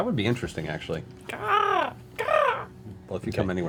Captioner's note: caws